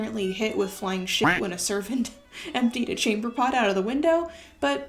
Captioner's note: quack sound